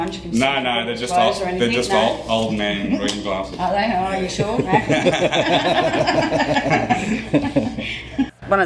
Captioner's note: laughter